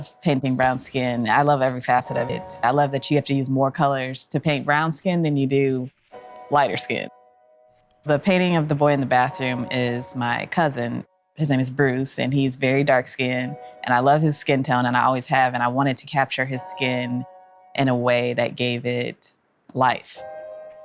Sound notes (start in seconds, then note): none